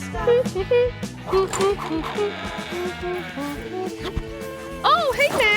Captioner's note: Blueberry humming